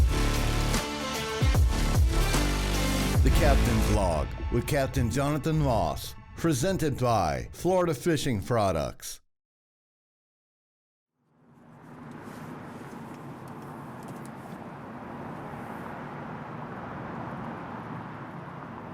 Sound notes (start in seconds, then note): 11.4 tires humming